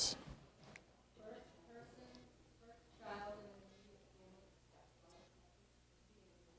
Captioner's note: audience member speaking quietly